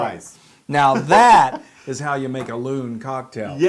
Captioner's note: laugh